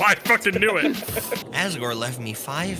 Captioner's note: laugh